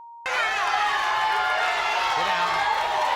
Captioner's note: crowd shouting